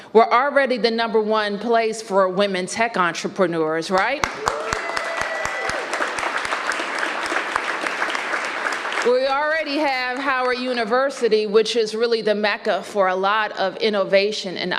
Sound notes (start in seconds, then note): 4.2 applause